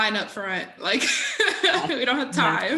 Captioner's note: laughing